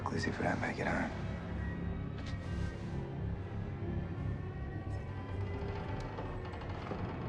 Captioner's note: pensive music; ship creaking